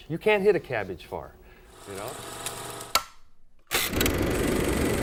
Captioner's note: film reel clicking